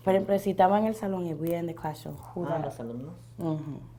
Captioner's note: teacher and student speaking in foreign language